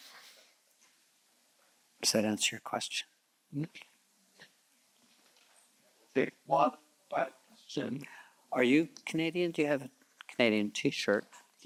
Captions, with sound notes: Does that answer your question? (Participant speaking faintly) Are you Canadian? Do you have a Canadian T-shirt?